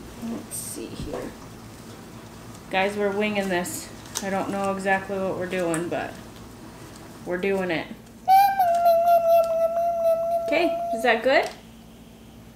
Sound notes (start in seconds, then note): 8.2 vocalizing